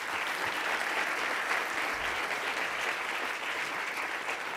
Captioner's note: audience applauds